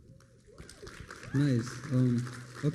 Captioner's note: applause